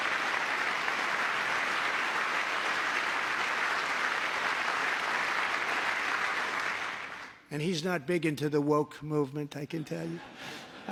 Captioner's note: applause